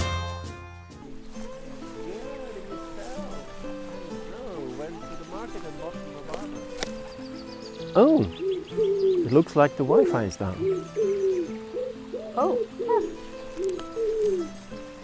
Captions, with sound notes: (Indistinct chatter) Oh! (Pigeon Cooing) It looks like the WiFi is down. Oh, huh!